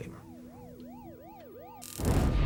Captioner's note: video game beeping; dramatic music